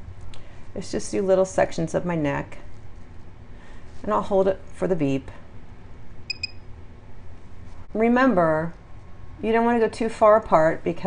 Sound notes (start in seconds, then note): 6.3 quiet beeps